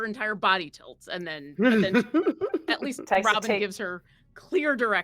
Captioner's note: laughing